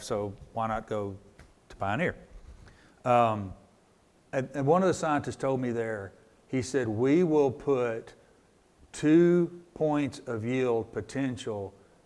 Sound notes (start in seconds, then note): none